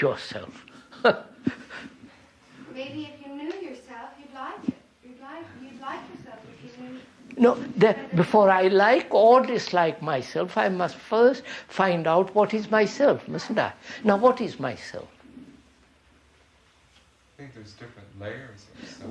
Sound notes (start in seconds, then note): 0.8 laughs